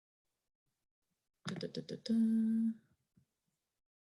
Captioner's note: humming to themselves